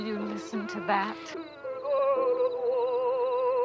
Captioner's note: chuckles